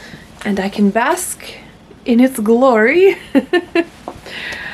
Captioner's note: laughs